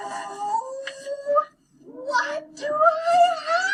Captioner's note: none